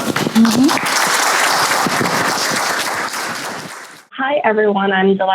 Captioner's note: audience applause